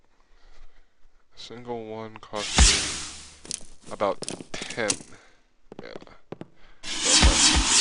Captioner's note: ectoplasm SFX